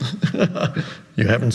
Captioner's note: chuckles